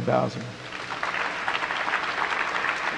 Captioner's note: applause